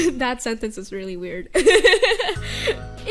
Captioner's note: laughing